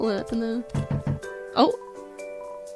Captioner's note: knocking